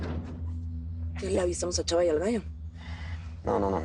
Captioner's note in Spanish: Portazo